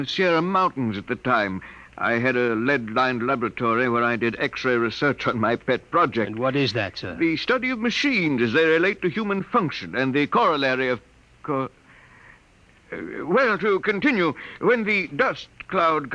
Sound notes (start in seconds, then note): none